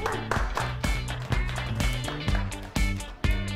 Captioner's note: applause